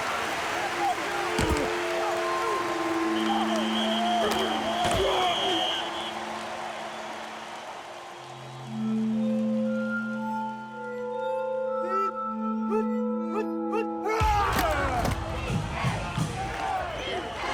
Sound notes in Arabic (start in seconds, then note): 13.2 الرجال يئنون; 16.0 طبول